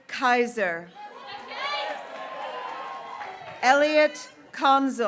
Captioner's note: graduates cheering